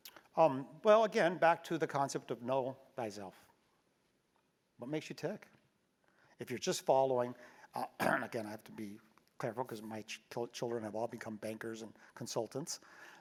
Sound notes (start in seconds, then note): 7.8 cough